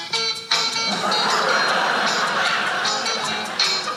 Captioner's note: audience laughing